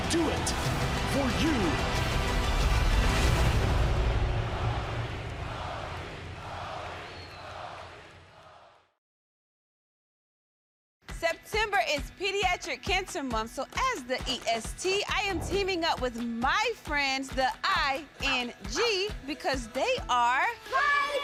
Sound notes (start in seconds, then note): 4.2 crowd chants "cody"